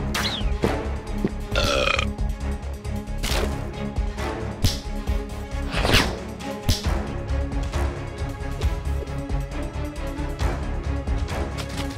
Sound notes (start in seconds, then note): 1.5 burps